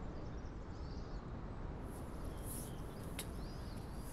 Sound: birds twittering

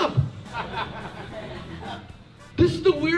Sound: crowd laughing

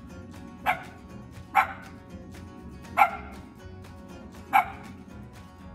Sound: unidentified yapping

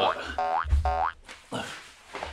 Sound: boing boing

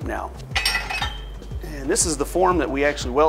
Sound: metal clangs

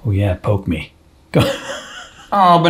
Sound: laughs

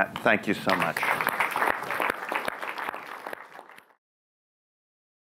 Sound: audience applauds

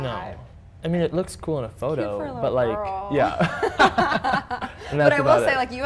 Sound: laughter

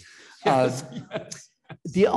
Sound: laughs

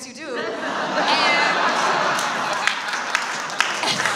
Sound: audience laughs

